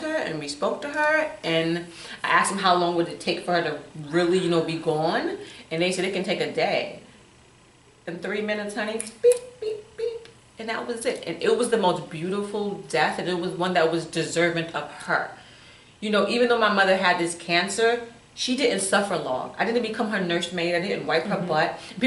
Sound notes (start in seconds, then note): 9.0 snaps and beeps